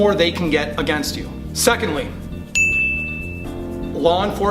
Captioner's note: ding